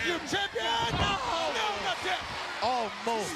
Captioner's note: Mike exclaims